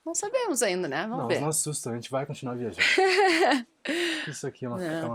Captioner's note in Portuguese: risadas; suspirando